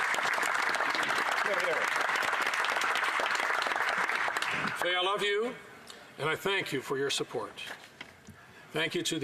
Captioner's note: some Applause